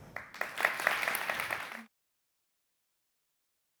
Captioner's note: crowd clapping